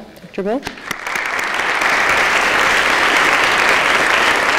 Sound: audience claps

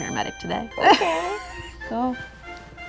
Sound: laughs

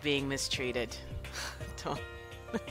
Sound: laughter

